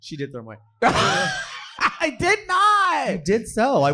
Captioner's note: laughing